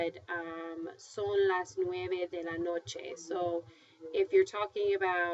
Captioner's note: speaking spanish; spanish